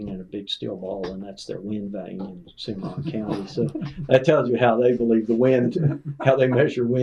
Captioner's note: laughter